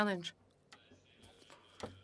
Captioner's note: speaking French